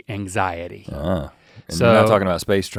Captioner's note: Rhett grunts